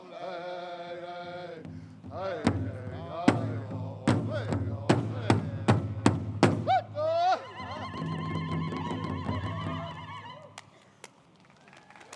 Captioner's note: applause